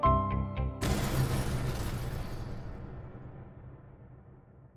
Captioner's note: fire roaring